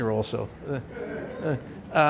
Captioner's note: laughter